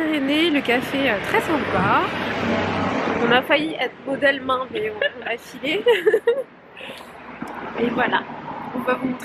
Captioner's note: laughs